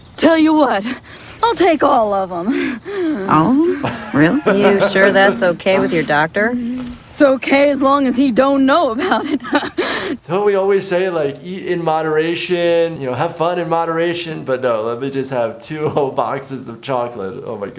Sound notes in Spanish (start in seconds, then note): 9.0 risas